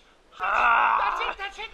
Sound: growling

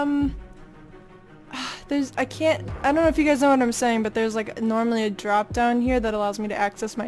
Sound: sighs

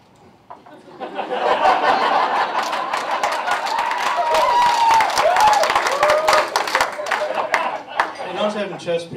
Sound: laughter & Applause

